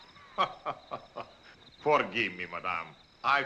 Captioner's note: laughs